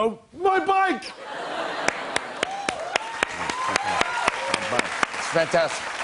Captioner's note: cheers and applause